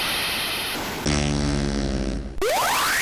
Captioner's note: fart